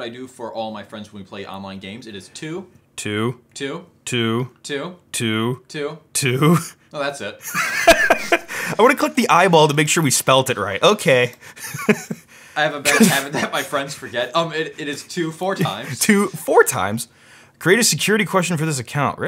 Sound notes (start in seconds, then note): 7.4 laughing loudly; 7.4 laughs